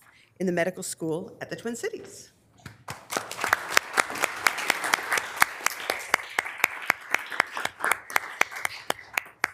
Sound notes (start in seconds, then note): 2.7 members applauding